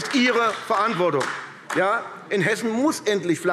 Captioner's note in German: Beifall AfD